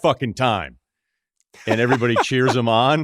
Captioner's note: laughs